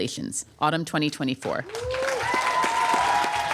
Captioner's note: applause